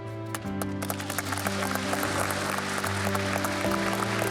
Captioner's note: clapping